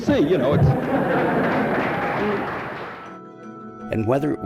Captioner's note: crowd Claps